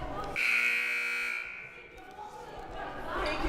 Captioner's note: whistle blaring; buzzer blaring; crowd murmuring